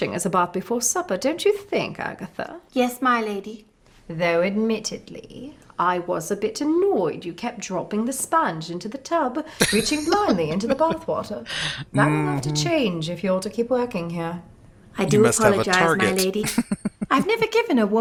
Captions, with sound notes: [Laughing] Mm-hmm. You must have a target. [Chuckling]